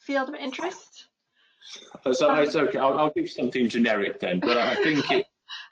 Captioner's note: laugh